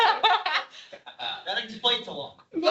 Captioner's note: audience laughs